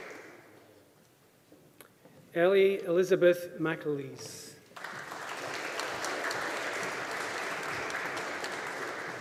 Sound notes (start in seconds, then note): 4.7 audience applauding